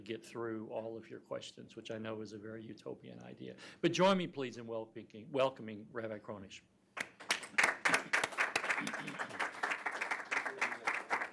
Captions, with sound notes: get through all of your questions, which I know is a very utopian idea. But join me, please, in welcoming Rabbi Kronish. (audience applauding)